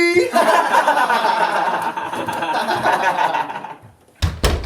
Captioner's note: laughter; door closing